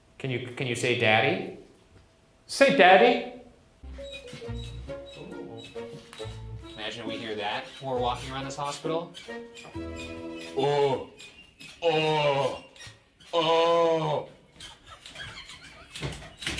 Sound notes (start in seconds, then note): 4.5 bed creaking; 11.0 groaning